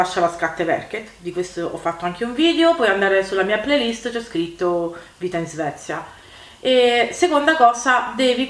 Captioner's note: only in Italian language now